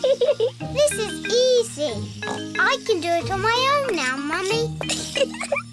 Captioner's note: giggles; snorts; giggles